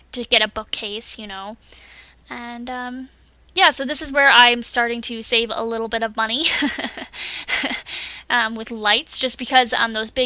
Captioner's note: laughs